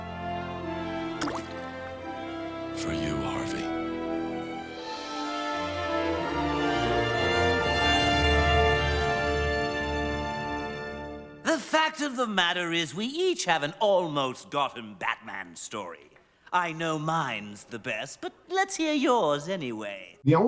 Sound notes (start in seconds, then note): 1.2 coin plops in water